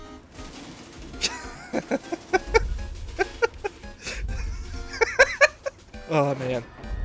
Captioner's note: wheezing chuckling